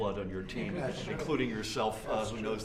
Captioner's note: laughter